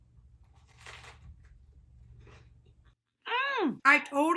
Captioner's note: crunching